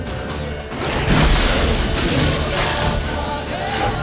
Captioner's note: Quen shield explodes